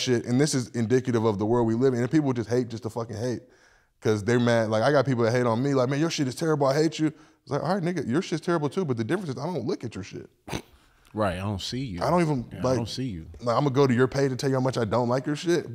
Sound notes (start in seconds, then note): 10.4 laughs